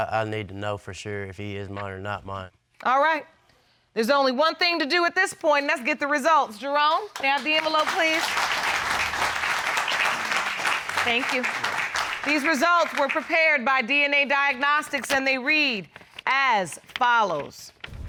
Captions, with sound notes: I need to know for sure if he is mine or not mine. All right. There's only one thing to do at this point. And that's get the results. Jerome, may I have the envelope, please. [audience applauding] -Thank you. -You're welcome. These results were prepared by DNA Diagnostics, and they read as follows.